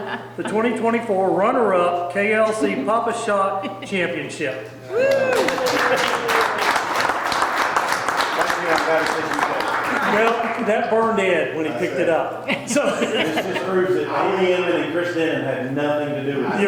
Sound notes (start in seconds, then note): 4.8 people cheering; 4.9 people clapping